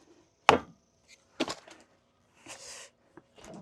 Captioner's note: wood thuds